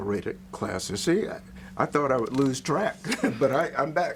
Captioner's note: laughs